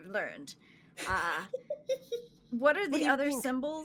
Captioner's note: giggling